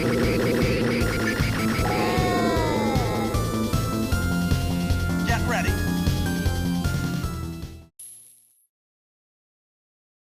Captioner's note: Space Harrier Game Audio